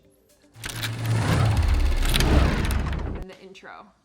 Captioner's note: cogs whirring